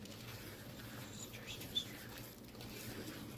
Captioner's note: whispered